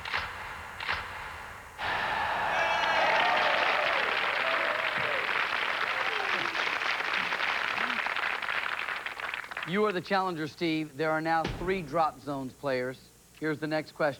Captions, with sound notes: [cheers and applause] YOU ARE THE CHALLENGER, STEVE. THERE ARE NOW THREE DROP ZONES, PLAYERS.